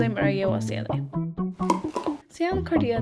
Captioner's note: slime sound